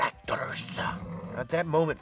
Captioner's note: Ferruccio growls